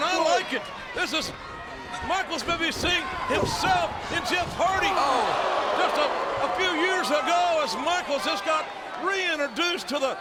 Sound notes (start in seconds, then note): 5.2 audience groans